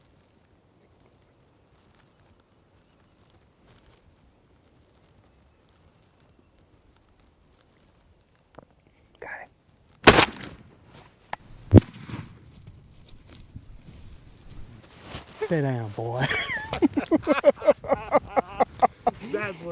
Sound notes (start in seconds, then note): 10.0 gunshot; 16.2 both laughing